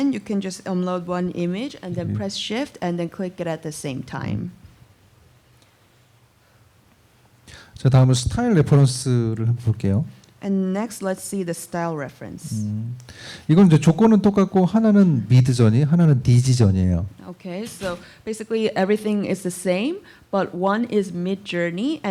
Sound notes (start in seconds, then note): 7.7 speaking korean; 13.1 speaking korean